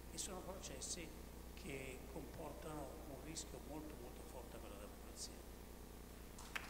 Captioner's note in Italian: Applauso